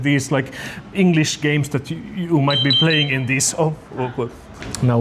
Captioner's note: piippiip